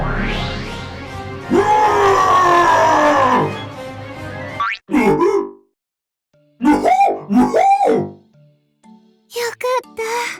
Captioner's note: cough